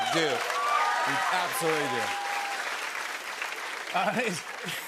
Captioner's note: cheers and applause